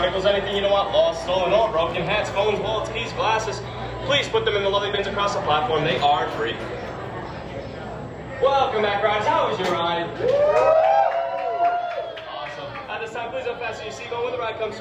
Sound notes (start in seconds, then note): 10.1 happy cheering, wooos, etc